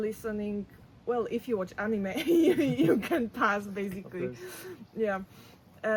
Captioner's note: laughs